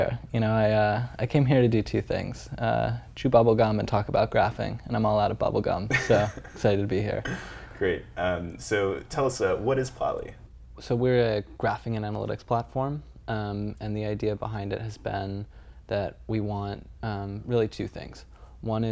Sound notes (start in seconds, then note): 5.9 laugh